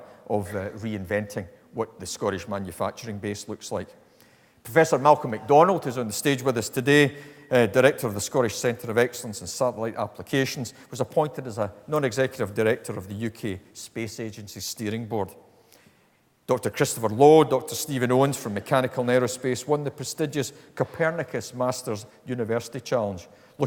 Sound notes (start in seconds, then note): none